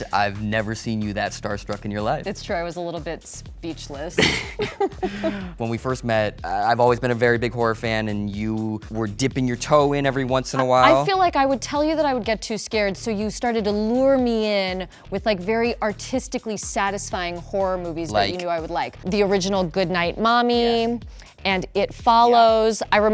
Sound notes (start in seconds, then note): 4.1 both laughing